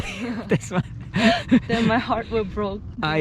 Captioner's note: both chuckle